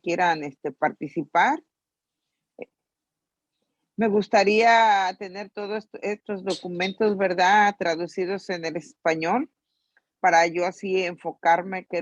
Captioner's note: in Spanish